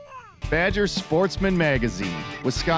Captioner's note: voiceover